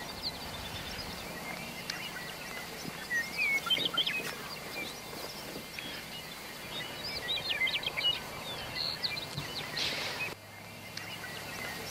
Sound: birds chirping

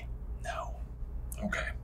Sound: whispers

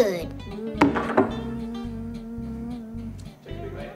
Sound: plate clinks

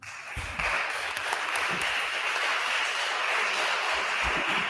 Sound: attendees applauding

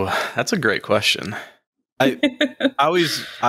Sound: laughs

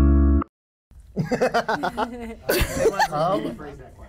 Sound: laughter

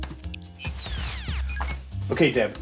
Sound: effects beeping

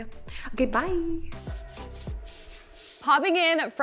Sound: transition sound effect

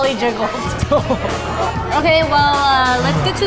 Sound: laughs

